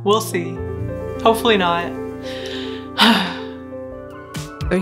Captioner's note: loud sigh